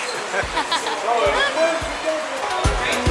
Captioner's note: laughter